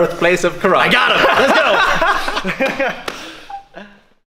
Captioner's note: laughing